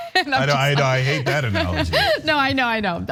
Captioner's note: laugh